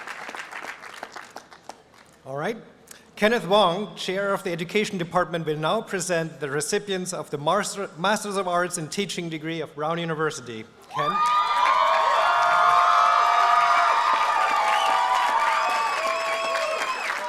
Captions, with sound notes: All right. Kenneth Wong, Chair of the Education Department, will now present the recipients of the Master's of Arts and Teaching Degree of Brown University. Ken? [APPLAUSE AND CHEERING]